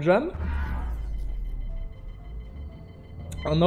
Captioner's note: bzzzzzzt